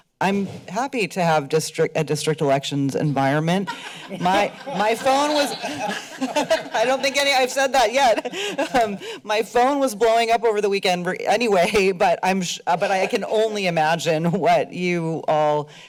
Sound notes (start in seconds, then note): 3.6 laughter; 8.5 laughs